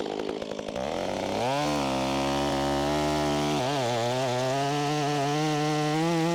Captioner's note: chainsaw buzzing continues